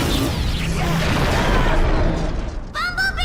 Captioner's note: bumblebee groans